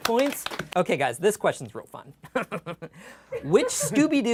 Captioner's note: laughs